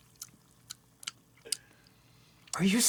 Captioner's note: smacks lips